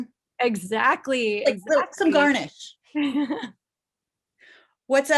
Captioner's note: laughing